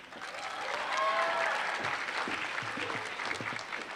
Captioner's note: applause